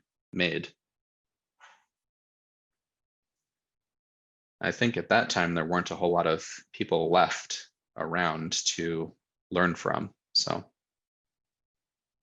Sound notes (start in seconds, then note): 0.5 silence